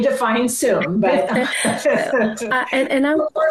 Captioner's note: laughter